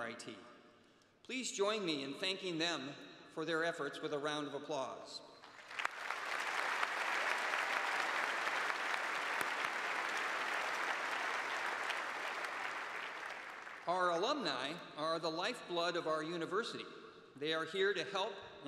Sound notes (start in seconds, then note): 11.1 applause